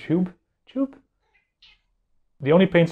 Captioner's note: meow!